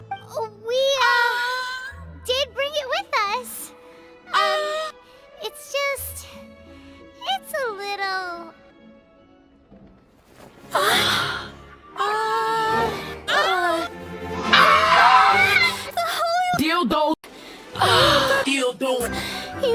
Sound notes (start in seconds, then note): 12.0 awkward m0an; 12.0 surprised m0an